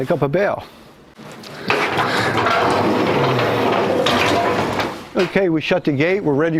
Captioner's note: the sound of gate being closed